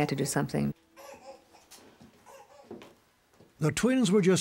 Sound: baby fussing

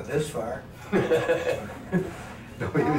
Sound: men laughing

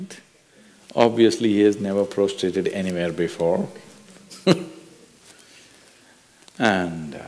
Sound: laughs

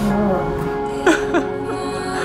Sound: laughing

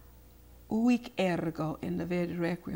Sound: speaks foreign language

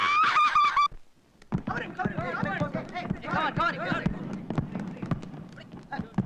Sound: indistinct Voices

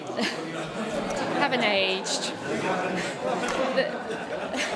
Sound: laughter; laughter

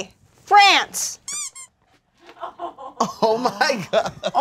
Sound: toy squeaks

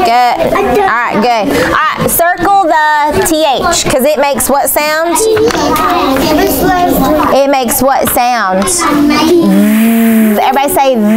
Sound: buzzing

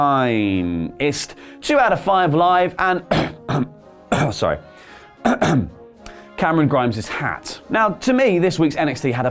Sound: cough

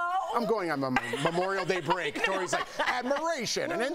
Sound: laughter

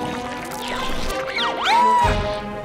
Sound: shrieking

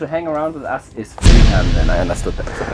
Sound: bang

